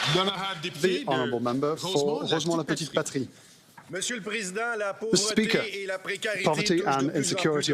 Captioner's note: some Applause